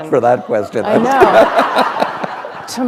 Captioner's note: laughter